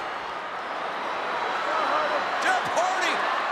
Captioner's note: audience murmuring